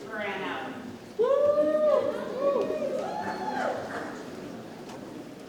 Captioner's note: audience cheers